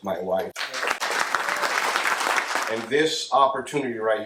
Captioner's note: audience claps